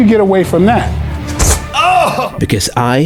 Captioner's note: Michael exhales